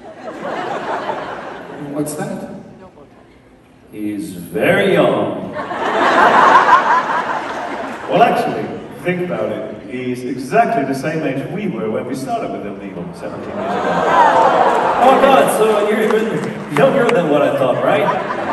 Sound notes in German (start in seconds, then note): 0.0 Menge jubelt; 5.4 Menge lacht